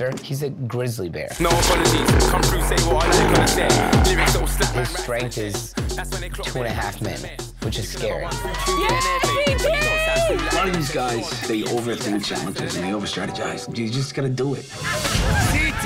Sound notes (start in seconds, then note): 1.3 bear growling